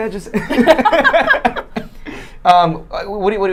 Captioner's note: laughing